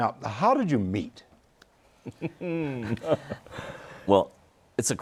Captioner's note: laughter